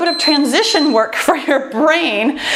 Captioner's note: timer beeps